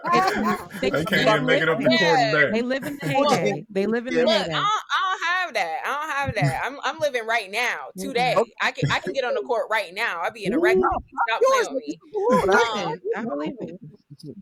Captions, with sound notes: (laughing) I can't even make it up the table there. They live in the heyday. They live in the heyday. Look, I don't have that. I'm living right now, today. I can get on the court right now. I'll be in a record, stop playing with me. I'm living.